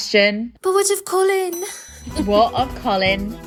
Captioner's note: ding; pirate music